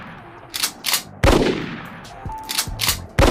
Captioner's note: gunshot